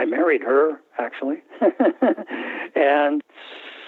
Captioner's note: laughter